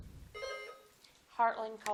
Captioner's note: buzzer dings